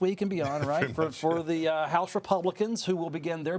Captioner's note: laughing